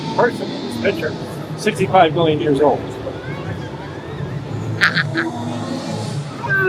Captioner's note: laughs